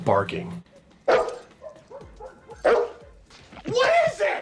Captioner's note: dog barking